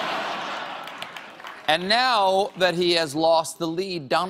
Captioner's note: laughter